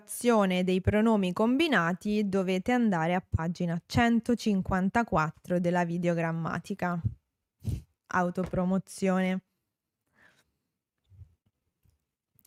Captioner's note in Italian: sbuffare